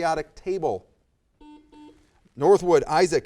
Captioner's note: buzzer